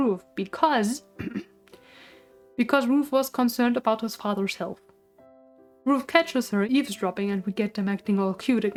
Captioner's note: ahem